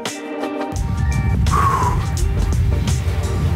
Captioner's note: exhales